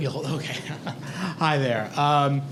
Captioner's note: laugh